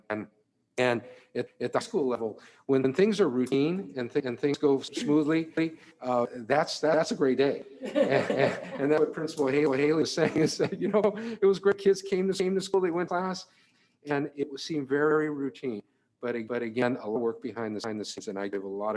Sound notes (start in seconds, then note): 7.7 Trustees laughing